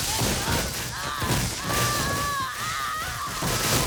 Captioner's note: screaming